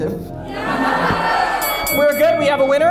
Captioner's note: audience laughs